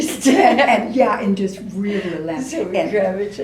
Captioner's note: laughs